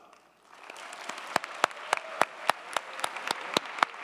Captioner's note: audience applauding